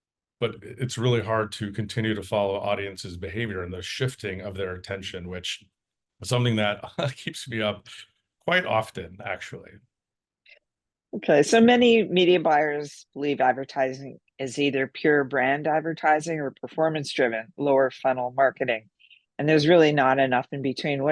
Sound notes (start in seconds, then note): 6.3 laugh